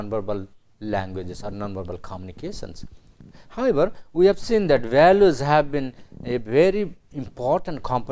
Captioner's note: Italian